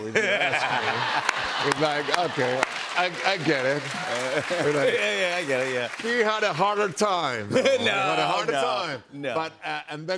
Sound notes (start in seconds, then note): 0.0 laughter; 3.6 applause